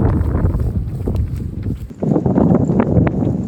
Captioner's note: wind blows